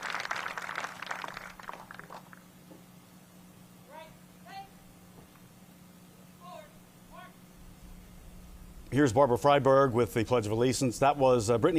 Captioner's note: applause